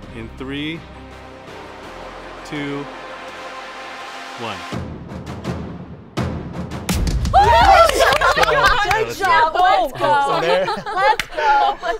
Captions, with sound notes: In 3, 2, 1. (everybody cheering and clapping) - Good job. Let's go. Let's go.